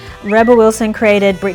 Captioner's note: lips whistle